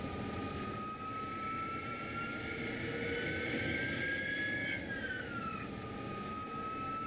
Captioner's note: lathe resumes cutting